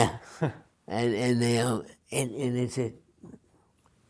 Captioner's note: small laugh